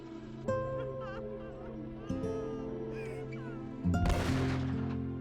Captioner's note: woman crying; bomb exploding